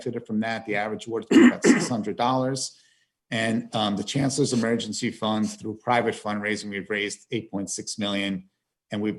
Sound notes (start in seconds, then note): 1.2 clears throat